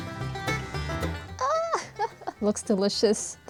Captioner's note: maniacal cackling